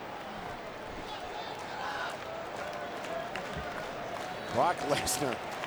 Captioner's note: crowd murmuring and clapping